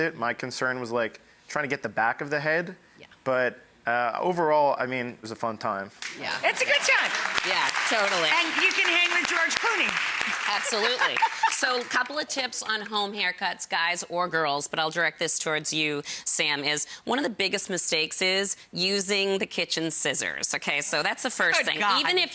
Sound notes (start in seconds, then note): 6.0 audience claps; 10.5 laughs